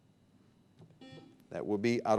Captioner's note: buzzer beeping